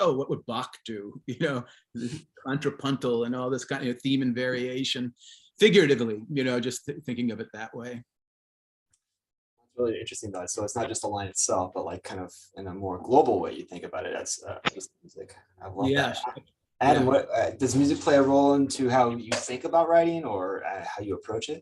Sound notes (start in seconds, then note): 1.9 chuckles